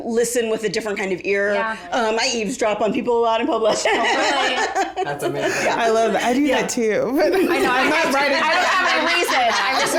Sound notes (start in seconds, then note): 5.1 all laugh